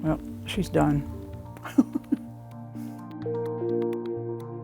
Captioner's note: light music continues; chuckles; light music continues